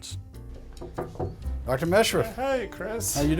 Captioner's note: knocking on door